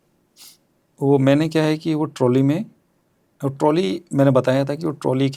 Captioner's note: nasal sound